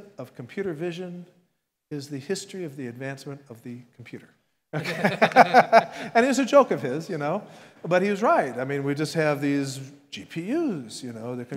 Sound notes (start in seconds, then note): 4.8 laughs